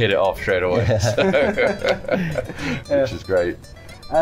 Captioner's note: laughter